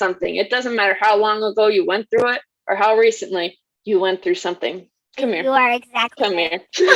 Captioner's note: laughs